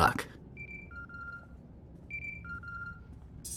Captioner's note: Holocomm ringing